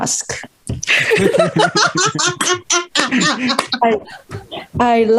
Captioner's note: Risas